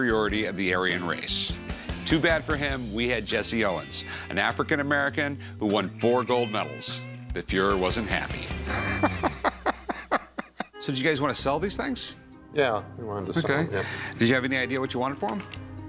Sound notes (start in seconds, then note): 8.4 laughs